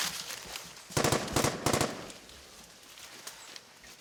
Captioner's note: gunfire